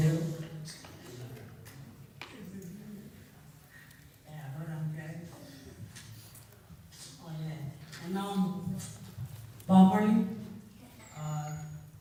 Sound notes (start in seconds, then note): none